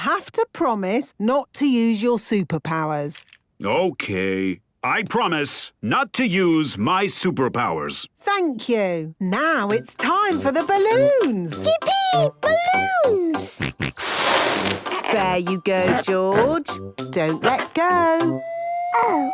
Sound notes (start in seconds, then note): 14.1 George snorts